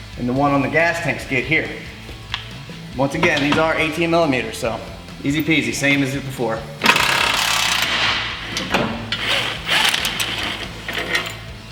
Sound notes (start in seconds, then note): 6.8 drill cranking